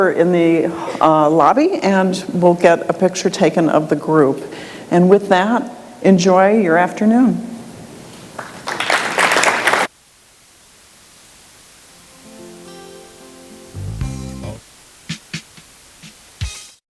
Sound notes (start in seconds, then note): 8.3 audience applauds